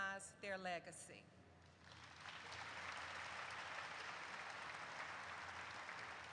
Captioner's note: audience applauds